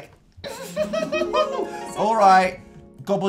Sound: smitten/loving/affectionate love noise?

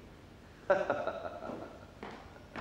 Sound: laughter

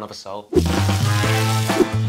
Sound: music and sizzling

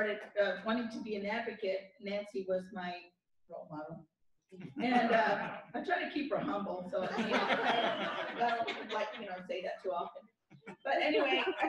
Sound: laughter

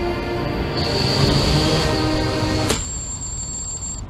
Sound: motors spinning

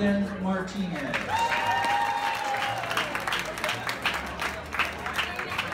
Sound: audience cheering and capping

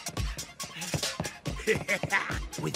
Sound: upbeat electronic music; laughs

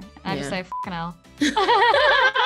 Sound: beep

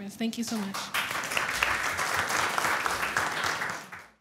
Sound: applause

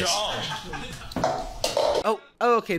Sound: cup rattles

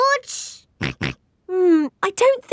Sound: snorts

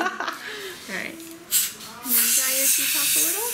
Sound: laughing; air whirring

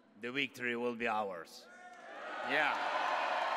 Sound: applause

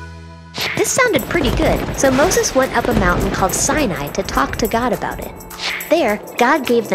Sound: upbeat music; thunder

